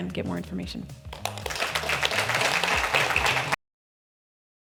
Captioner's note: audience clapping